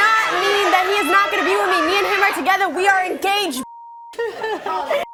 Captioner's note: beep